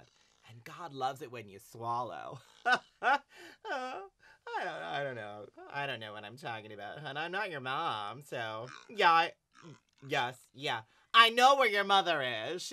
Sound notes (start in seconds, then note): 2.6 laughs